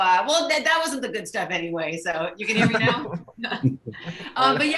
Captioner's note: chuckles; laughs